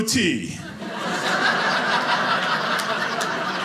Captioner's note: audience laughing